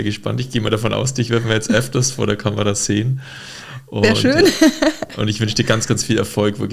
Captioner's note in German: gelächter